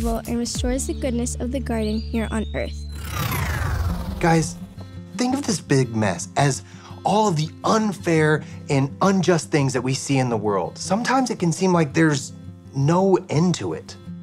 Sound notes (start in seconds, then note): 2.8 electricity whirring; 2.9 upbeat music